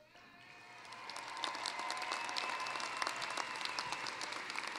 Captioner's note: applause